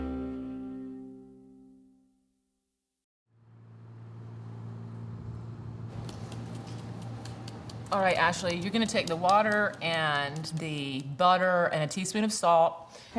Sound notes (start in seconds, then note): 3.3 engine rumbling; 5.9 palm tapping